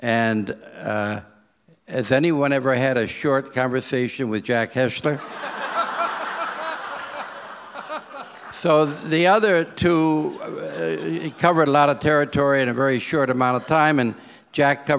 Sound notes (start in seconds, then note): 5.2 audience laughs